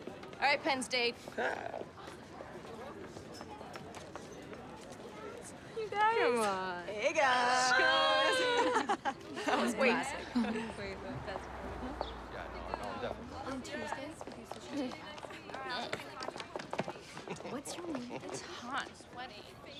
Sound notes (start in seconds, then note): 8.4 laughter; 11.9 students chattering